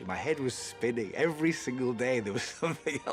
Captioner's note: laughs